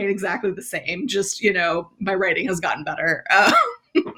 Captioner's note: laughs